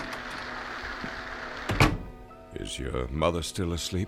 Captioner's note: door opens, closes